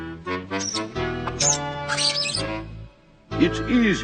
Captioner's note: pen squeaking